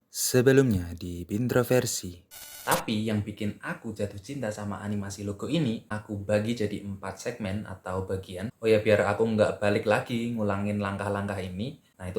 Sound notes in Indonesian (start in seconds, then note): 2.3 suara interferensi